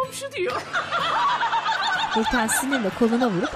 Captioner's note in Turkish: Gülme sesi